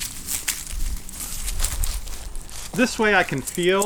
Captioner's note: metal rattles